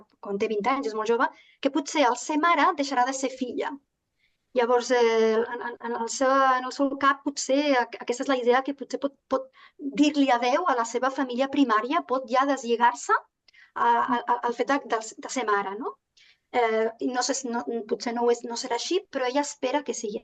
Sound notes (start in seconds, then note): 1.2 continues speaking in Catalan; 15.1 continues speaking in Catalan